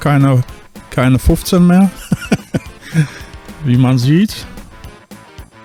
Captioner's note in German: gelächter